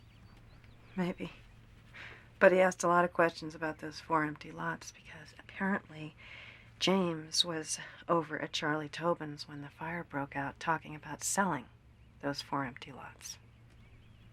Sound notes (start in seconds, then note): none